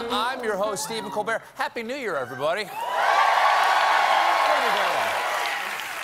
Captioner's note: cheers and applause